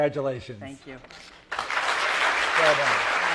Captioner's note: applause